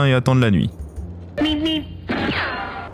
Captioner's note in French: extrait audio de Bip Bip et Coyote